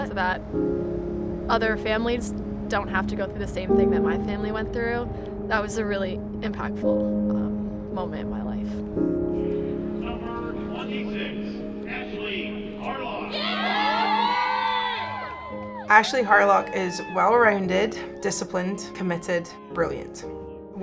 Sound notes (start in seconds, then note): 9.1 bittersweet music; 13.0 crowd cheering